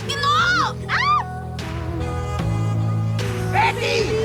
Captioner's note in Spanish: Grito